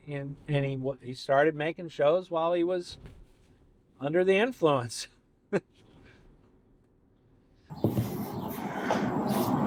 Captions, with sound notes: And he started making shows while he was under the influence. (laughs)